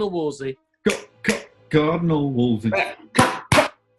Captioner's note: clicks fingers; claps